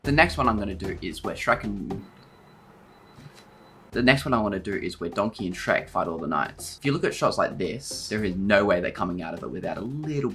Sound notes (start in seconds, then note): 1.8 beeping sound